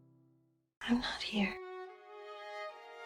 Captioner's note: voiceover